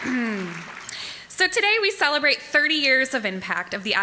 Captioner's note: applause